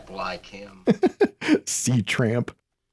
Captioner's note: laughs